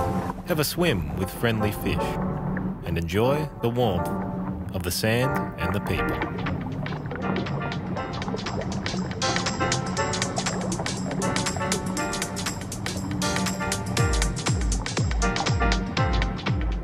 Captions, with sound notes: Have a swim with friendly fish, and enjoy the warmth of the sand and the people. [Upbeat electronic beat] [Water noises]